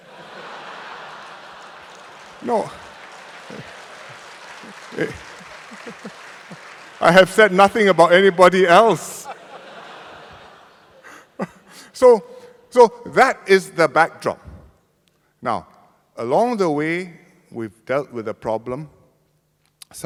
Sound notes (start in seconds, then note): 0.0 laughter and applause; 11.0 laughter